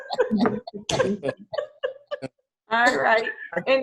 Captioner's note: laughs